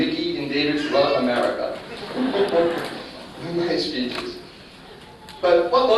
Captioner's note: laughter